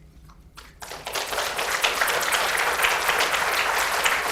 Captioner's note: audience applauds